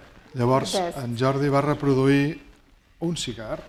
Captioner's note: speaking spanish